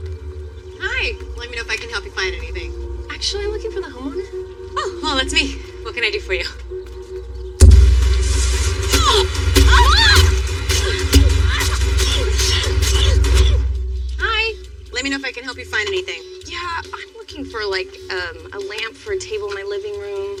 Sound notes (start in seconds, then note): 8.3 grunting